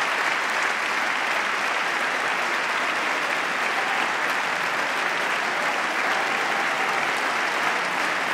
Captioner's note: applause